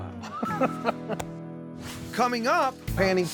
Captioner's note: both laughing